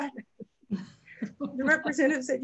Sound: laughs

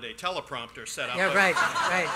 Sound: laughter

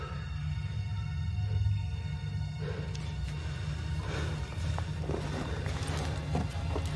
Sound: breaths heavily

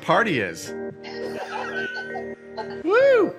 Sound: employees laugh

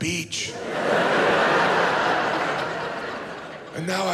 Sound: audience laughs

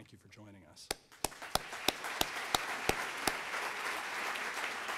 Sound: audience applauds

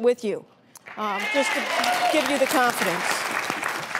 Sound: applause

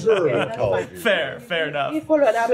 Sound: laughter

